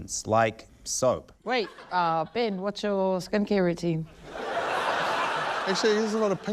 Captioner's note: laughter